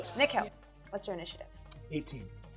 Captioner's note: none